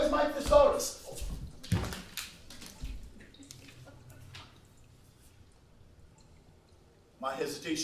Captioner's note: thudding; paper rustling